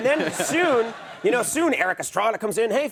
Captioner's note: audience laughs